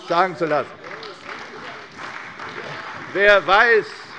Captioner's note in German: Beifall bei der CDU